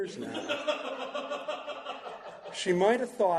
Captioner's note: laughter